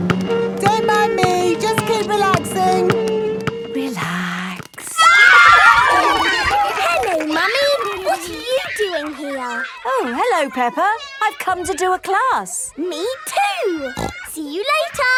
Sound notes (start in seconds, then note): 4.8 kids screaming; 5.2 laughter; 13.8 snorting